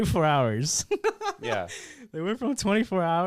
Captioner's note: laughs